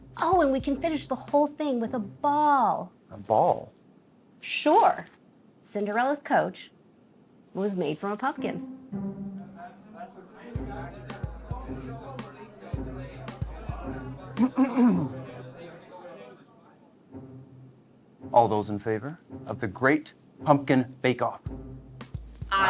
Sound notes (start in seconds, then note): 9.4 group chattering; 14.4 Pierce clearing throat